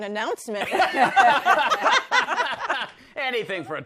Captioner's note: laughter